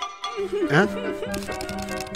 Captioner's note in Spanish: llora